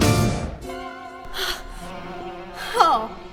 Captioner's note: breahtes heavily